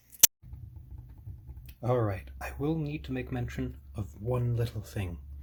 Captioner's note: fingers tapping